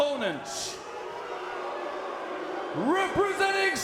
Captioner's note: crowd booing